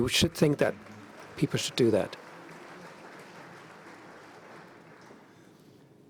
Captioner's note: applause